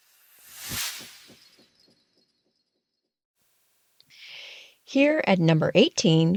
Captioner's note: sound effect